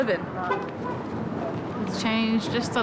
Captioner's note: car horn honks